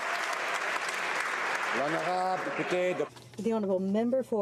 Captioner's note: applause